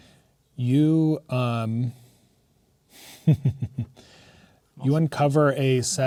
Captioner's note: chuckling